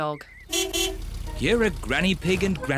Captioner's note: horn beeps